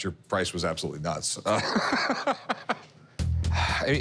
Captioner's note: laughs